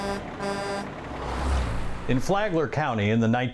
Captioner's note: truck horn